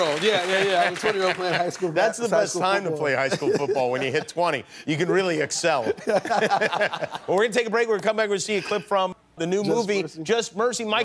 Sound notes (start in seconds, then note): 5.8 laughter